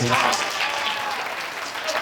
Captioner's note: applause